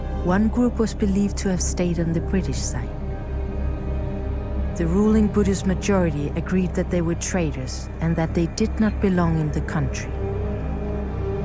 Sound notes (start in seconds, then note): none